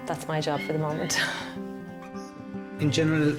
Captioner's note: laughing